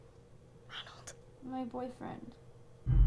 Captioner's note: whispers